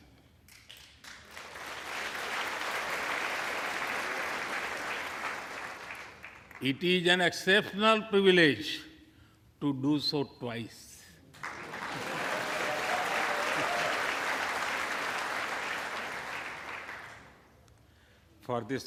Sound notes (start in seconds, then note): 5.7 applause